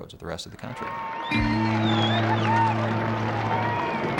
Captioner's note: cheers and applause